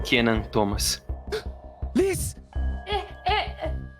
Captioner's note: gasps